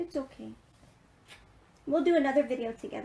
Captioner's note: smooching